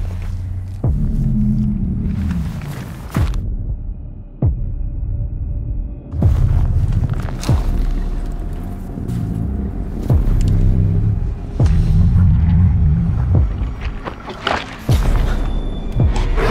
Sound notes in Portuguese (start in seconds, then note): 7.0 galho quebrando; 13.5 mastigando